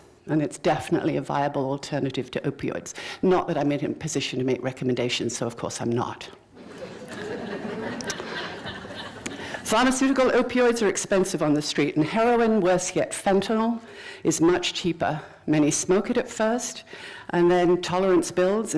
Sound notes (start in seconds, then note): 6.6 laughter